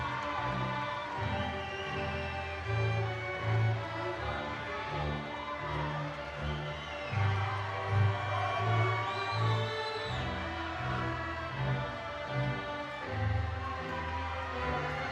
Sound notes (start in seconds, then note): 8.7 audience cheering